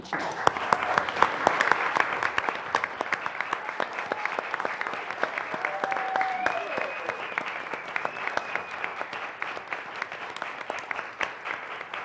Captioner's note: applause